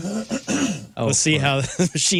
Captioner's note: clearing Throat